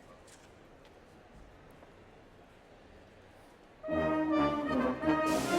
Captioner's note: background chatter